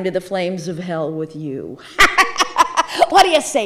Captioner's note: laughing